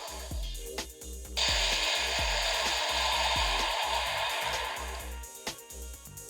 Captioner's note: explosion